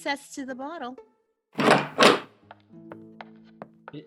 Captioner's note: door Opens